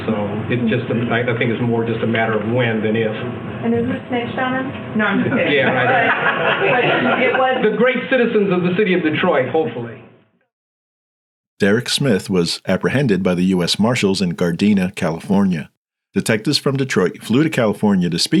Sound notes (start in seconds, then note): 5.2 attendees laughing